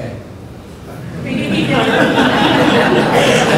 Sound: laughter

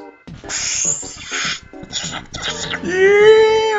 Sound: inhale

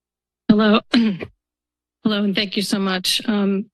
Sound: clears throat

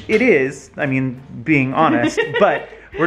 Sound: laughs

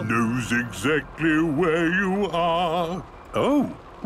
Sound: mimicking tune

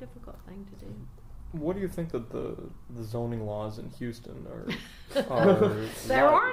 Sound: laughing; laughs

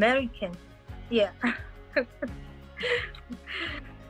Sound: laughs

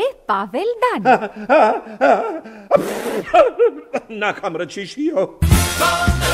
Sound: sneezes

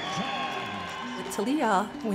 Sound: announcer speaks distantly; audience cheers

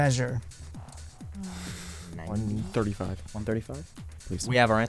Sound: wispering

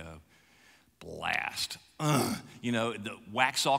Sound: grunts

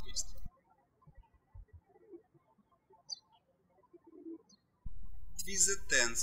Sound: birds chirping

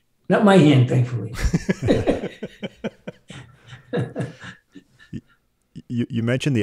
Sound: laughing

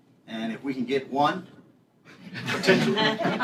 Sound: laughter

